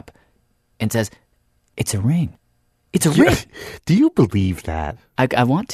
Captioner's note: laughs